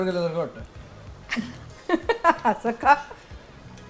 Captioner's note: chuckles